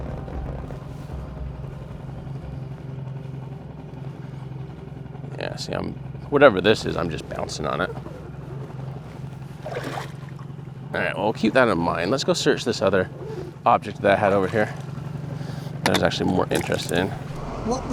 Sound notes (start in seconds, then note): 9.3 water splashes